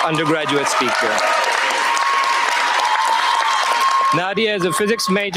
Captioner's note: cheers, applause